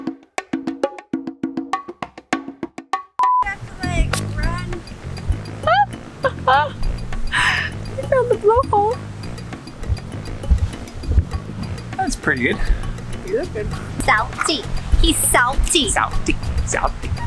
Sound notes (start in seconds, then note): 6.2 laughs